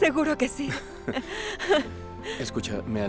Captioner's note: Ambos ríen